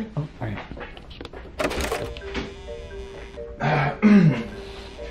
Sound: door clatters

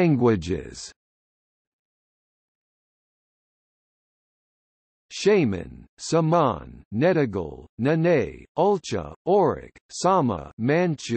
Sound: manchu

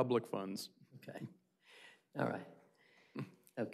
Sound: laughter

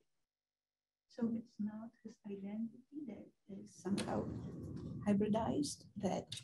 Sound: woman's Voice

